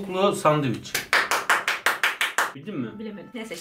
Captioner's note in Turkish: Alkış